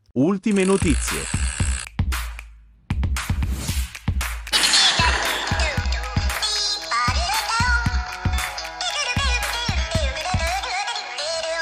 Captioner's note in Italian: Applauso